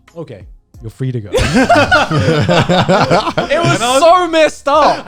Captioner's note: guys laughing